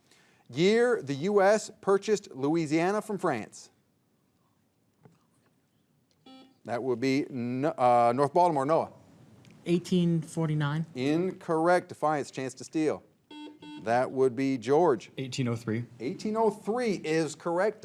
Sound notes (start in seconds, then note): 6.2 buzzer beeps; 13.3 buzzer beeps